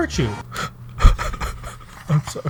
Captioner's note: sobbing